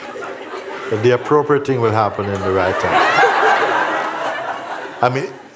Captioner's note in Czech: smích